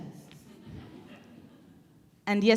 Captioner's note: crowd laughing quietly